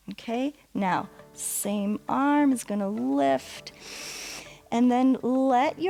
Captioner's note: inhales